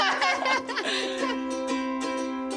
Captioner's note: Pati and Vivian laugh